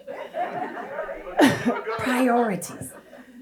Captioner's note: audience laughs